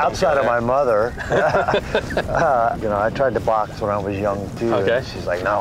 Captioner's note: laughs